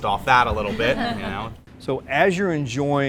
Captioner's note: laughs